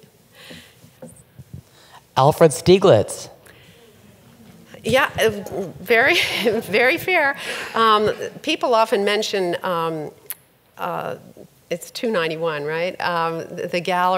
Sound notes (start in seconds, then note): 3.6 audience murmurs appreciatively